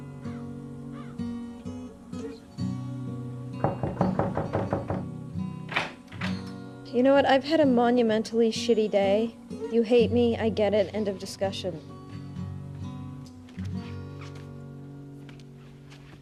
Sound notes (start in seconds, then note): 3.6 KNOCKlNG AT DOOR